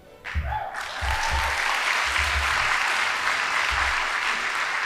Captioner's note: audience applauding